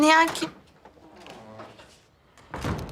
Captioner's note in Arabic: يفتح الباب